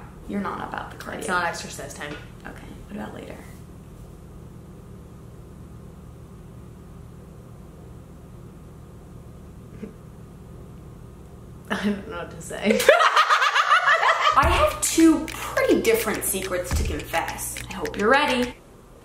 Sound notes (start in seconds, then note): 12.7 both laugh